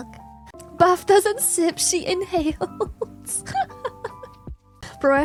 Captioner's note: laughs